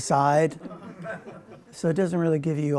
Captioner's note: laughter